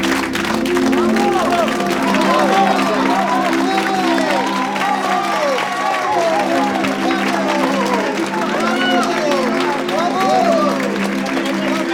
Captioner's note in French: aplaudissement